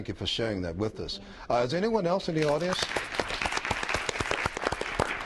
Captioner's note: applause